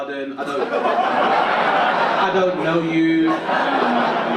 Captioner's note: audience laugh